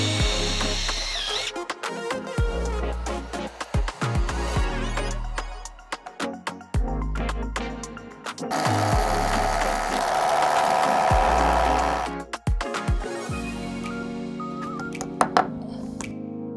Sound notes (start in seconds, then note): 0.0 drill whirring; 2.0 upbeat music; 8.5 drill whirring; 14.8 upbeat music